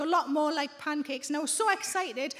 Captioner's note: none